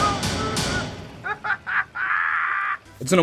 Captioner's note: laughs in spanish